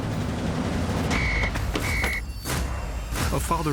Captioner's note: police whistle tweeting